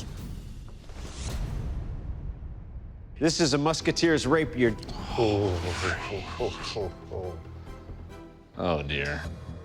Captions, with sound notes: This. [dramatic music] This is a musketeer's rapier. [sighing] Oh, dear.